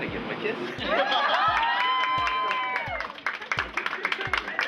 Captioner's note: clapping, cheering